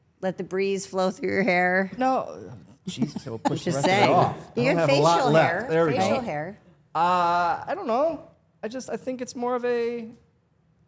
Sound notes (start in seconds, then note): 3.2 Stephanie laughs